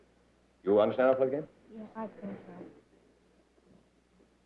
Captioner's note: none